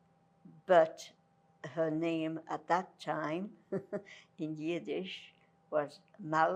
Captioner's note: laughing